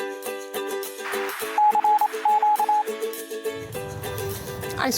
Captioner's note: alert sound